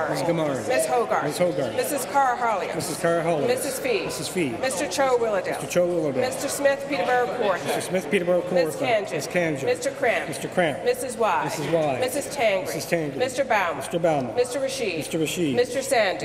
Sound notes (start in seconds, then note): none